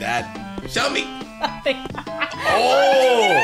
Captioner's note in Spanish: risas de nerviosa